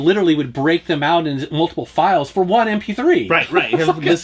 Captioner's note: laughs